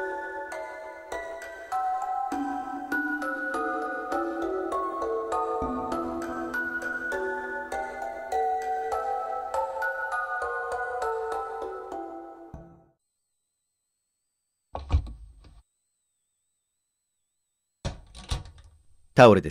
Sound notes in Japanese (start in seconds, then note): 14.8 扉を開ける音：ガタン; 17.9 扉を閉める音：ガチャリ